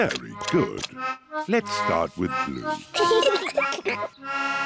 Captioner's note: both giggle